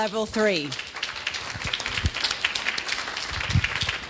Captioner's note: clapping